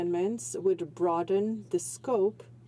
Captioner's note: speaking in french